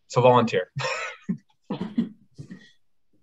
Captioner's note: laughs